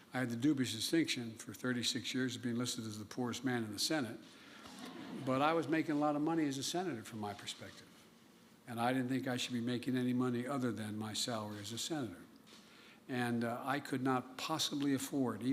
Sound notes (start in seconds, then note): 4.7 laughter